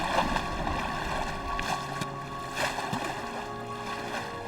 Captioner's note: water splashing